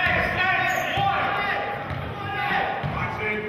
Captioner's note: yelling